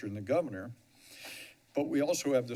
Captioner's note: inhales